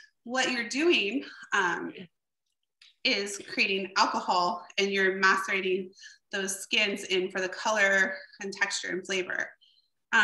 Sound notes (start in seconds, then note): none